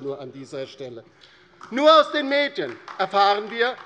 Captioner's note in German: Beifall DIE LINKE